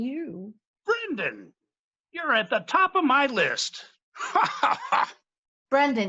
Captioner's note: laughs